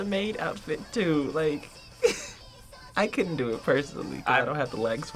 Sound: chuckling

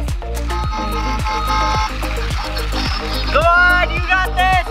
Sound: car horn

